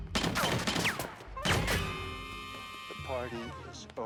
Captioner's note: gun fires